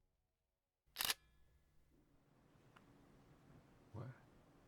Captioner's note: camera clicks